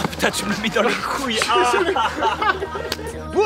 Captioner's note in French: rires